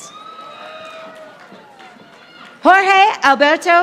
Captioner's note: audience applauding